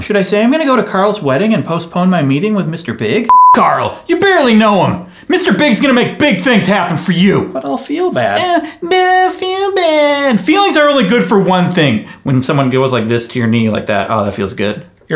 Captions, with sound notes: Should I say I'm gonna go to Carl's wedding and postpone my meeting with Mr. Big? (beep) Carl, you barely know him. Mr. Big's gonna make big things happen for you! But I'll feel bad. (mockingly) but I'll feel bad. Feeling are only good for one thing: when someone goes like this to your knee like that. Ah that feels good.